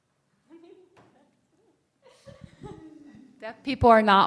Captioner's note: woman chuckles